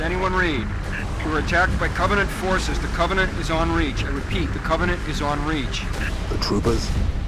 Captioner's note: radio